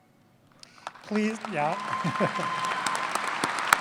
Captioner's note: applause